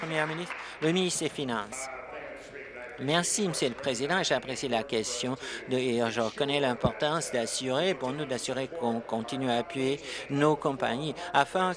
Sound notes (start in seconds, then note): 2.0 applause